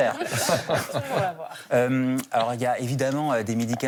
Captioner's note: laughs